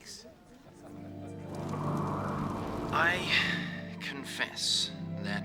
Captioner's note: gentle music; wind howling